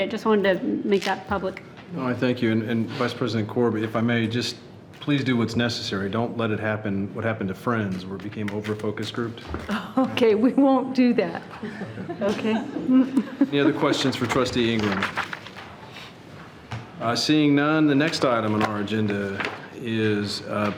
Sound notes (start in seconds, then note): 11.5 laughing